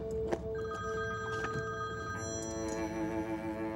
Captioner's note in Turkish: Telefon çalıyor